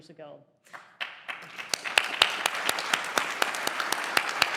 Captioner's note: applause